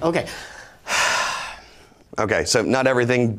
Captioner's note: sighs